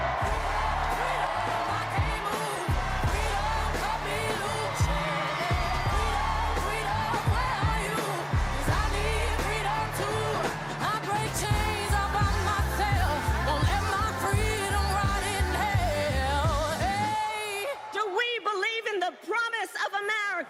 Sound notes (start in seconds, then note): 6.9 cheers and applause